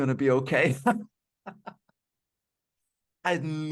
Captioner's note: laughing